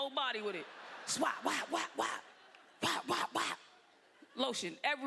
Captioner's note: exclaiming